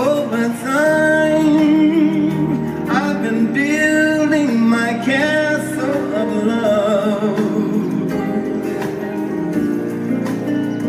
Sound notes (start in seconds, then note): none